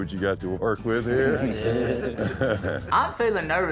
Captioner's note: laughter